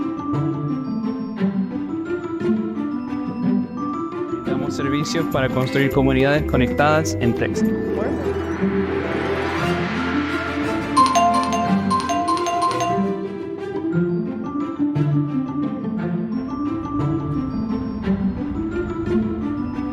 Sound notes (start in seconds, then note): 4.4 Spanish; 10.9 notification bells ding